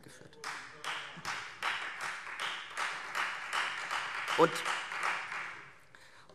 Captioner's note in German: Beifall Freie Demokraten